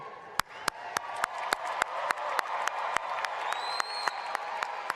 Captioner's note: applause